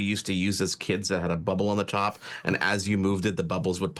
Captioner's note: chuckling